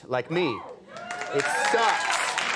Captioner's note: audience cheering